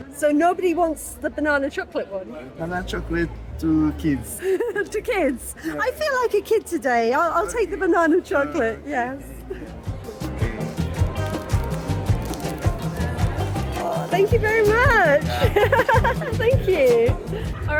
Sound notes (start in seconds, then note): 4.4 laughing; 10.1 upbeat music; 15.9 laughing